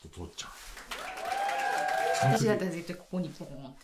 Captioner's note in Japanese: 歓声